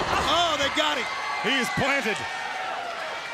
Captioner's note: crowd cheering